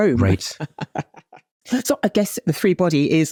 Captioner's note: laughs